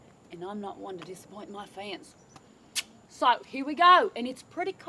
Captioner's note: kiss